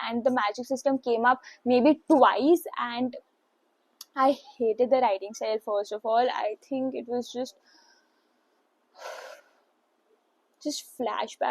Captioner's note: deep sigh